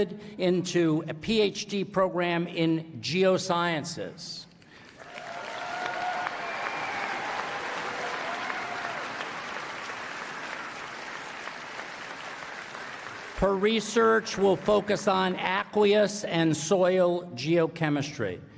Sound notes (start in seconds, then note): 4.6 applause